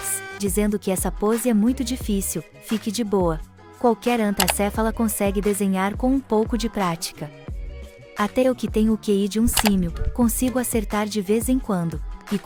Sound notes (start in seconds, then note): 4.4 click sound